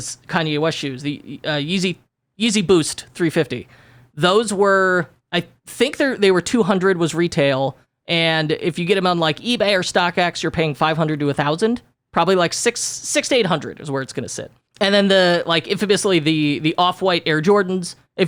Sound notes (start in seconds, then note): none